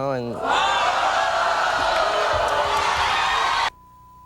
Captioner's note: audience booing